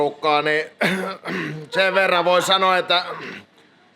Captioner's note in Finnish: rykäisee; rykäisee